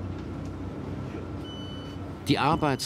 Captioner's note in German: Tür piept